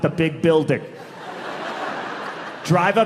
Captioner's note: audience laughing